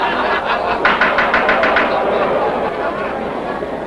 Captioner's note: laughter; gavel pounding